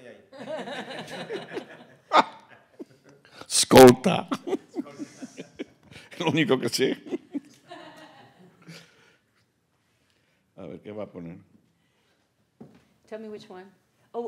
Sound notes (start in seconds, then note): 0.0 speaking Spanish; 0.3 group laughing; 3.2 speaking Spanish